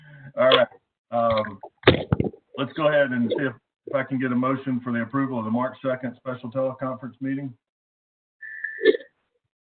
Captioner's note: laughs